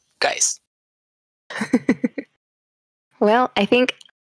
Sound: laughter

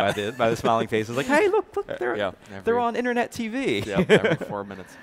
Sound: laughs

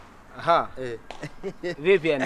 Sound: chuckles

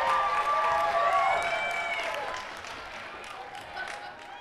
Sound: cheers and applause

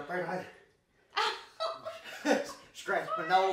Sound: both laughing

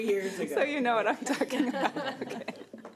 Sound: laughing

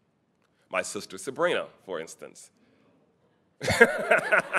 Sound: laughing

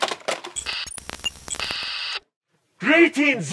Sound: intermittent signal

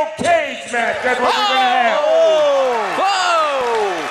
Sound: crowd cheers

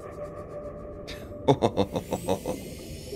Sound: chuckling

